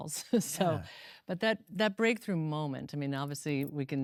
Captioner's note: laughs